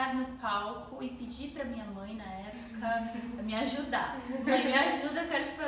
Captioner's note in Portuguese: risos